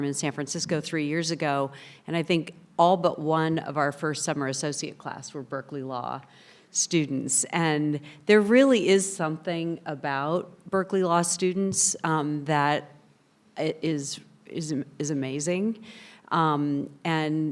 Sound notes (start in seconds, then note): none